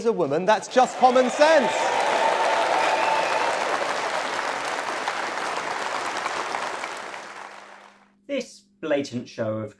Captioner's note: crowd Applauds